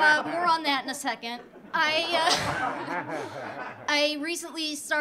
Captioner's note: audience laughing